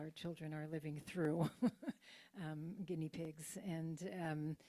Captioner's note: chuckles